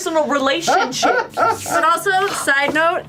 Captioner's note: laughter